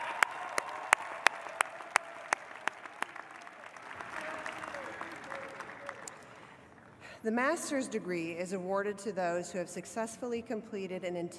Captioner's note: applause